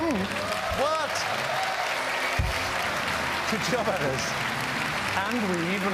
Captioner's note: applause